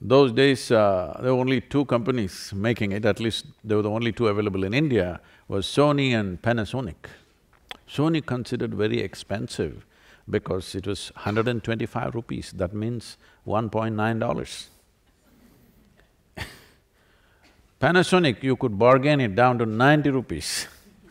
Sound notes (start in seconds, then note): 15.3 laughs